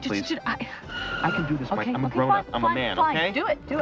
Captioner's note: car screetching